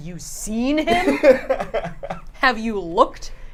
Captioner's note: laughs